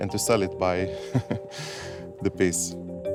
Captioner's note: chuckles